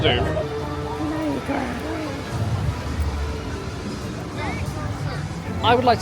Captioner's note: growls playfully